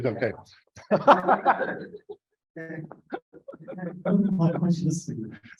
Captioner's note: laughter